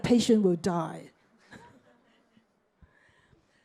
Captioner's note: chuckles